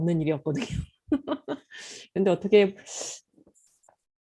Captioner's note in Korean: 웃음